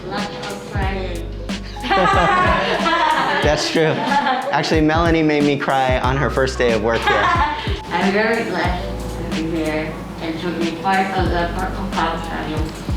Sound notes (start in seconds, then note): 1.7 laughs; 6.0 laughs